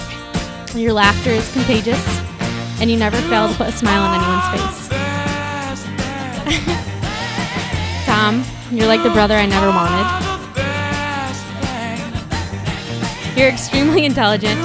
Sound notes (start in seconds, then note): 8.7 laughing